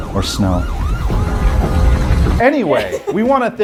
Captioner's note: sirens blaring; horns honking